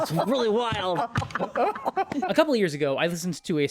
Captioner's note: laughter